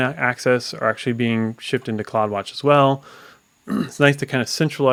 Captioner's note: coughs